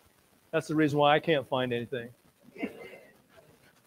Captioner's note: laughs